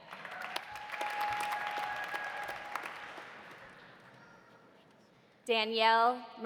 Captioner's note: audience applauding; audience cheering